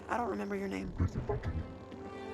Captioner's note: Rusty grumbling in Ithorian